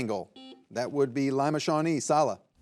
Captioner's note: buzzer buzzing